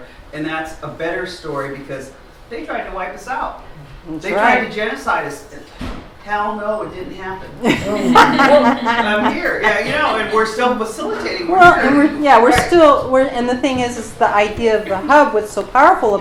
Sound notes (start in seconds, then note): 7.6 laughter